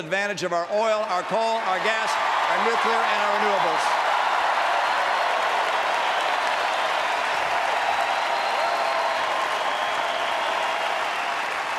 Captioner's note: applause